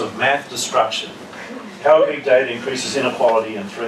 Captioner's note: laugh